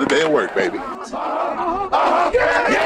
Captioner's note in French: Cri d’équipe